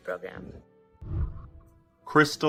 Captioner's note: whooshing